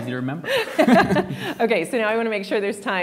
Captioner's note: both speakers laughing